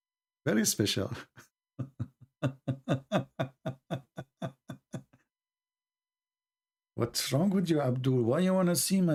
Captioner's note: Ketawa